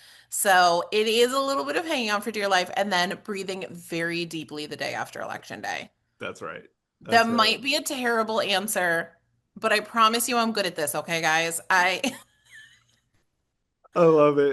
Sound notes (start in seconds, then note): 11.2 laughs